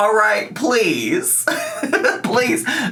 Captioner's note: laughs